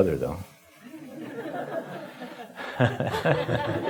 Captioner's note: laughing